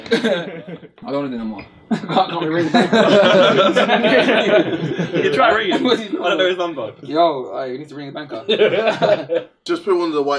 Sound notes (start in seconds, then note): 1.7 all laughing